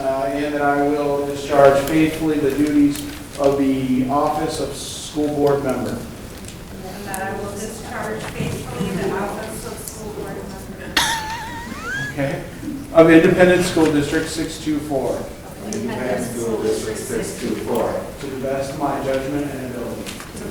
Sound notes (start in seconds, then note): 11.0 woman laughing